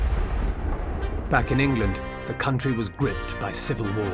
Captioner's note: cannon fire